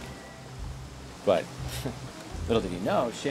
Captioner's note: chuckles